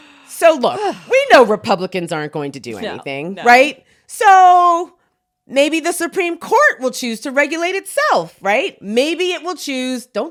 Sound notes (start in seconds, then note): none